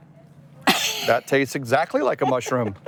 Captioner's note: chuckles